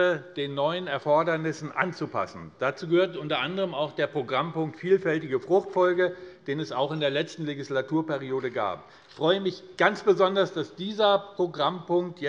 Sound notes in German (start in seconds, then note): none